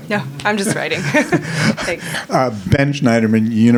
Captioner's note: laughing